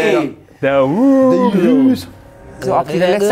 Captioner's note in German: Sie nuscheln